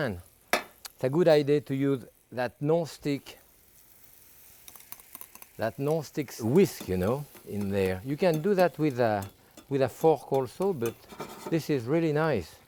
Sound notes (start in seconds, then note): 4.7 pan sizzling